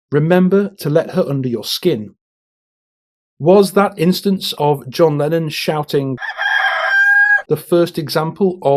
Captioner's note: cock-a-doodle-doo